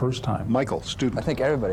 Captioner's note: voiceover